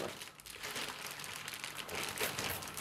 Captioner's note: rustling